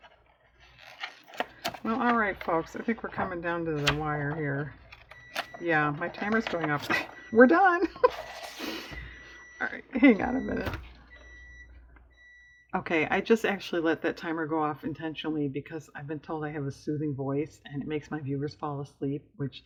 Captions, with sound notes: well all right folks i think we're coming down to the wire here (electronic beeping) yeah my timer is going off (laughs) we're done! (laughs) all right, hang on a minute okay i just actually let that timer go off intentionally because i've been told i have a soothing voice and it makes my viewers fall asleep which